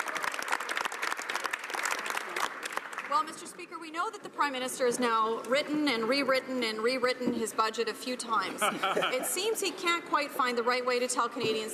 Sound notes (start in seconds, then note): 3.1 some Applause